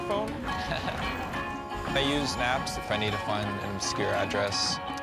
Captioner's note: laughs